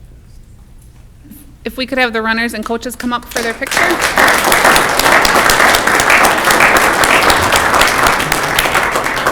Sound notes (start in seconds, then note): 4.6 clapping